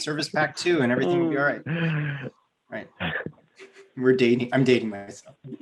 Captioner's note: laughs